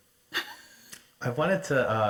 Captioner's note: chuckles